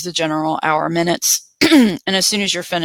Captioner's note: clears throat